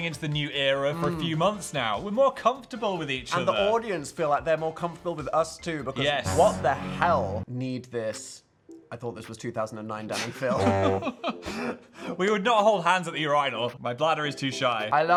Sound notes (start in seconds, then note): 10.4 Phil laughs